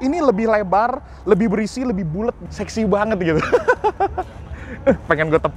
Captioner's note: laughing